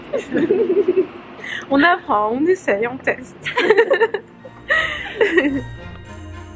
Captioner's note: laughs